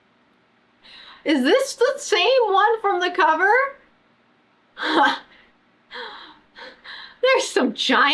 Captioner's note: laughs